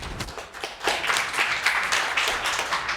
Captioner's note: audience applauding